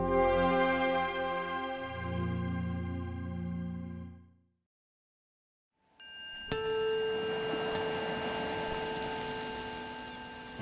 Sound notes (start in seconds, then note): 0.1 intense music; 6.0 bell ringing